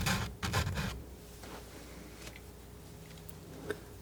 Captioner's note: scratching